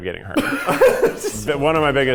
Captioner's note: laughing